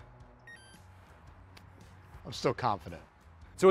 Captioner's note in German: Grill-Piepen